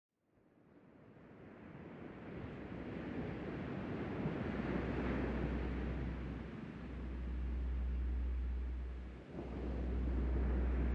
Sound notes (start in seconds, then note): 0.9 soft music; 0.9 waves breaking distantly